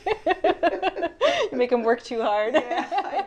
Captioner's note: laughs